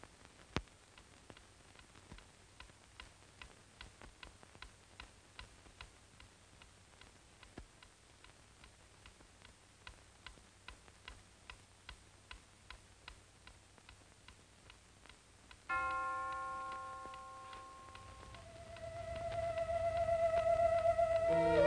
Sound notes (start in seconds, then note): 1.2 clock ticking; 15.7 bell tolling; 19.0 eerie music